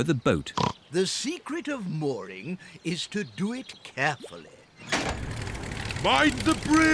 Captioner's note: oinks